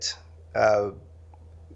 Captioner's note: sighs